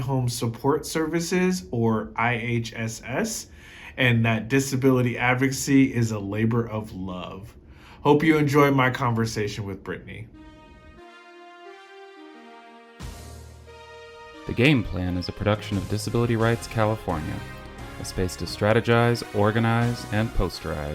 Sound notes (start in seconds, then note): 9.8 triumphant music fades in; 14.4 voiceover